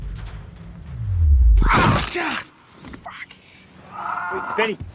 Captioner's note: crunch!